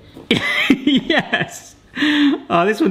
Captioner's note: laughs